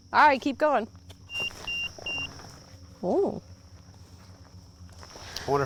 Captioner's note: EMF beeping